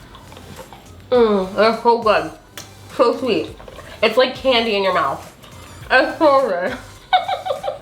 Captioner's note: laughing